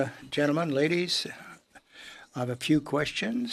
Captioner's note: speaking in French